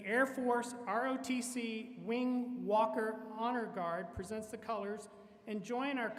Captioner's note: none